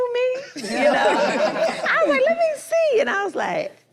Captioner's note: group laughs